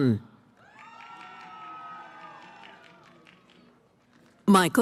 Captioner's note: cheering